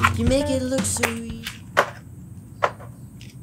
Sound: bottle lid snaps shut

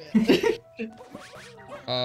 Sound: giggles; laughs

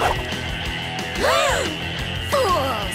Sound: gasping

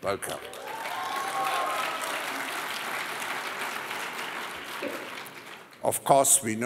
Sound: cheering and applause

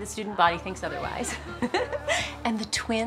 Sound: giggles

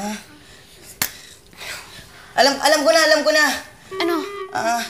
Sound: sighs

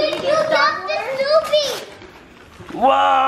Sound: shouts

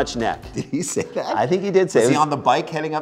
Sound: laughing

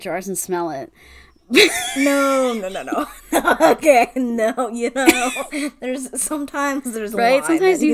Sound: laughs

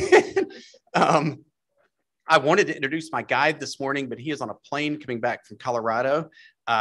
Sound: laughter

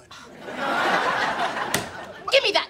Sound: laughing

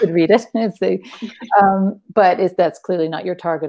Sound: chuckles

